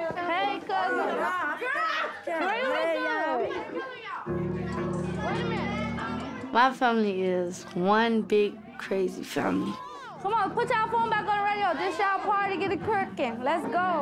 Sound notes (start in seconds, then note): 5.3 excited talking